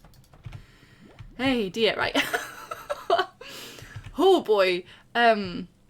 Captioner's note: laughs